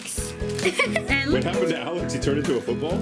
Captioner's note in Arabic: يضحك